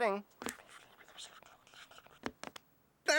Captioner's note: whispering